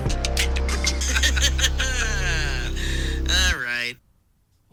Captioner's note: laughs